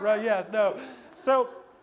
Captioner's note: laughs